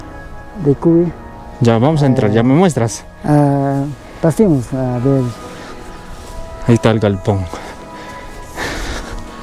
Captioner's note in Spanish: jadeo